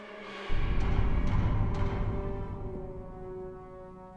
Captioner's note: thudding